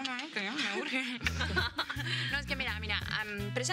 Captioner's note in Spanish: Risas